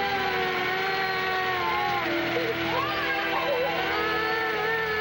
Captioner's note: children crying